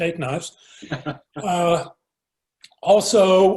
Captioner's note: laughs